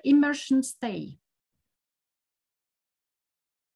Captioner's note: silence